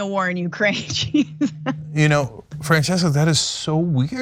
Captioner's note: laugh